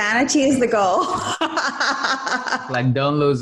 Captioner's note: laughs